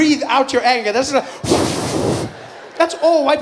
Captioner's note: breathing out noisily